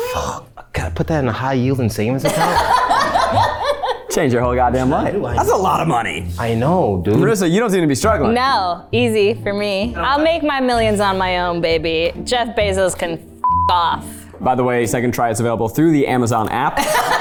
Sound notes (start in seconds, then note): 2.2 laughs; 16.8 everyone laughs